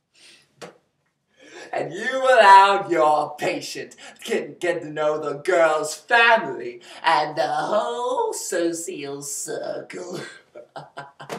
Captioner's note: chuckles